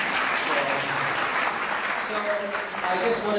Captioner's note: clapping